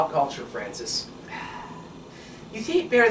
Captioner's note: Francis sighs